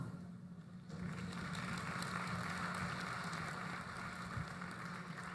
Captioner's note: applause